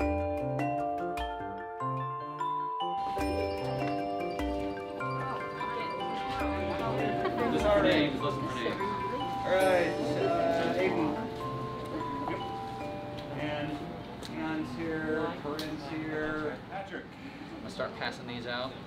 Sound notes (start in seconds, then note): 4.9 classroom sounds